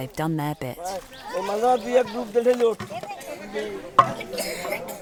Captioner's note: foreign language